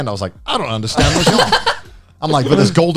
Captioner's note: laughs